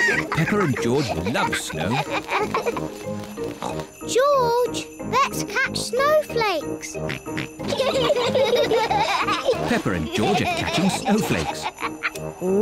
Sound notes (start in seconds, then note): 0.0 both giggle; 3.4 snorts; 7.3 both giggle